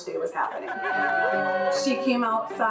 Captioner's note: crowd cheering